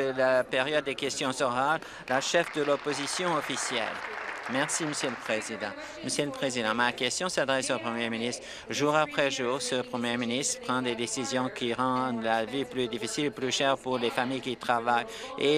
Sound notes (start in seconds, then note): 5.8 applause